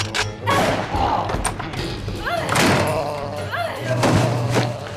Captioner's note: rifle cocks, gunshot; grunting